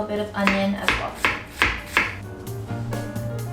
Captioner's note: thudding sound; upbeat music